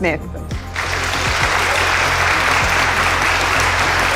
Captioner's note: applause